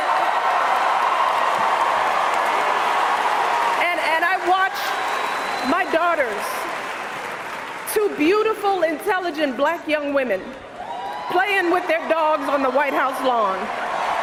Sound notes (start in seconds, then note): 2.4 cheers and applause continue